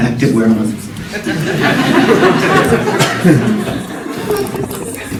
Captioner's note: congregation laughing